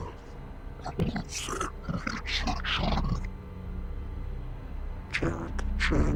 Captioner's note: distorted voice grumbles